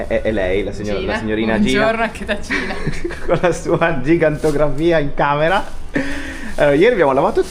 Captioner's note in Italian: risate